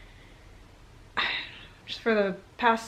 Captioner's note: sigh